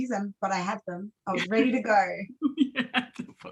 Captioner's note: laughs